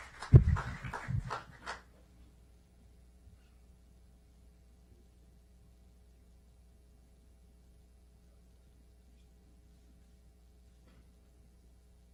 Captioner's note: clapping